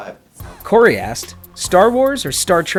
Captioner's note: voiceover